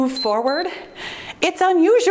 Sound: timer beeps

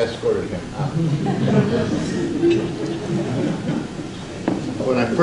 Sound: audience laughs

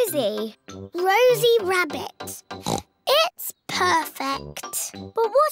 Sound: oinks

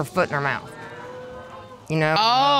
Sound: audience exclaims

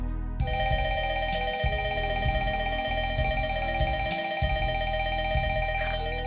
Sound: Nintendo DSi alarm starts ringing

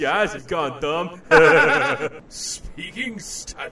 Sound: laughter

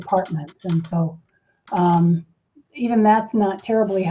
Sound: keyboard clacking

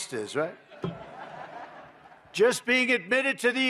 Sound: laughter

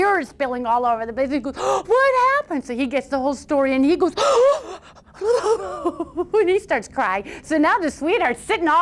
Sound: sob sob; gasp

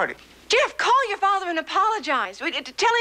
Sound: stutters

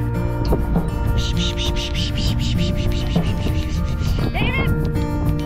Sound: upbeat music; water sound made with mouth

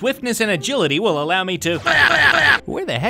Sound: yells

